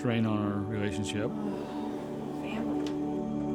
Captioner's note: sighs